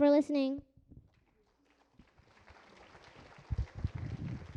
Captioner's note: applause